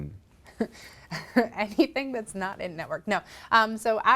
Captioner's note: chuckles